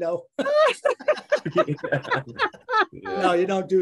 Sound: group laughing

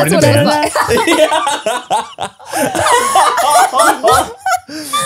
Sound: everyone laughs

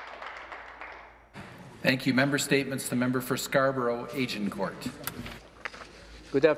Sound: some Applause

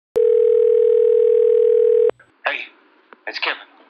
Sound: dial tone ringing

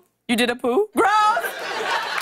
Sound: laughter and applause

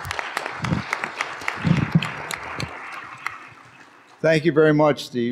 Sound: applause

